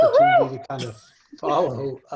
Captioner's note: cheering